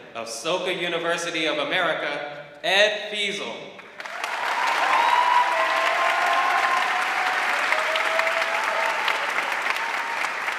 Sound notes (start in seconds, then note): 3.8 audience clapping; 4.0 audience cheering